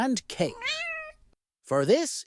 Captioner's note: meow